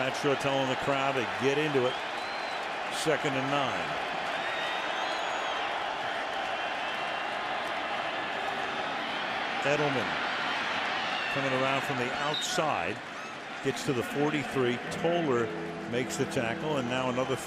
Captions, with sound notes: Ahmad Bradshaw telling the crowd to get into it. Second and 9. [cheering] Edelman turning around from the outside. Gets to the 43. Toler makes the tackle.